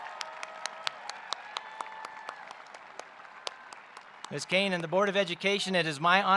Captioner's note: applause